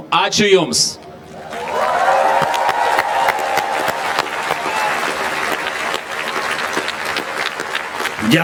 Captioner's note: applause